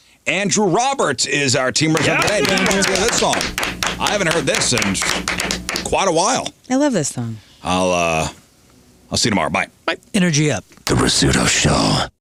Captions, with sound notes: Andrew Roberts is our team manager today. [APPLAUSE] And Andrew owns the head song. I haven't heard this in quite a while. I love this song. I'll see you tomorrow. Bye. Energy up. The Resudo Show.